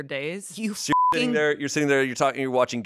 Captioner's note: beep